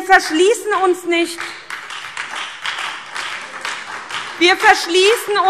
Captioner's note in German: Beifall SPD, Freie Demokraten und DIE LINKE